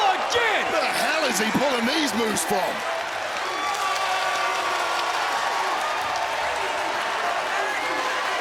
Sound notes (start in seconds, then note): 3.6 audience cheering and applauding